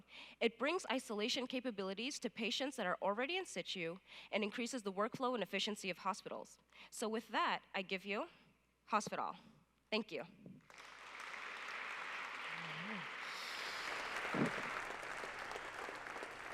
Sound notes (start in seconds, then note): 10.6 applause